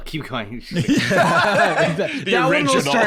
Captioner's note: both laugh